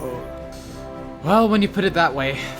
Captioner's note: sighs